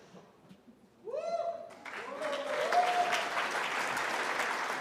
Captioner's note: cheering